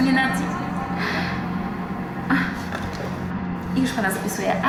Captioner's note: sighs